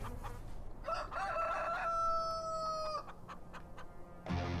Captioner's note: rooster crowing; dramatic music